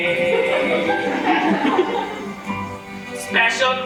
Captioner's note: audience laughs